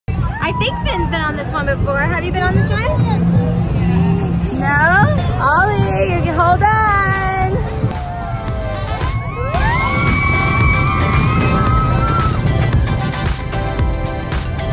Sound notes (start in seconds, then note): 3.7 laughs; 8.6 screams of excitement; 8.9 upbeat music